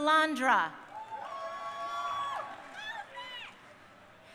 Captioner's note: crowd cheering